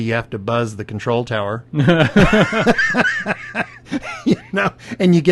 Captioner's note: both laugh